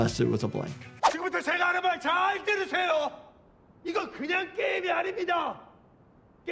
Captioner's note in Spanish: Jugador 546 hablando en coreano